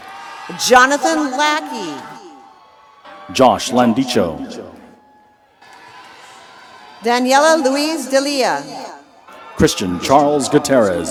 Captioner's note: applause